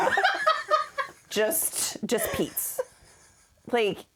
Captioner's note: laughing